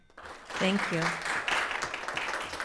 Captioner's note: audience applauding